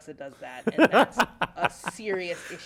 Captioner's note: laughter